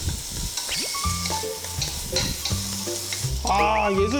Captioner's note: frying brisket